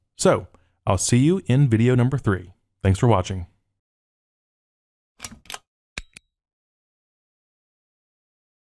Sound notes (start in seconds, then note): 6.0 clicking sounds